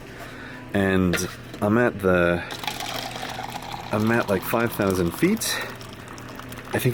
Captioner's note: coffee pouring